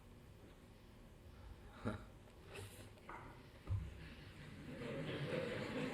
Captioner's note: laughs; laughter